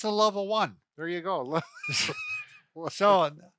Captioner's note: laughs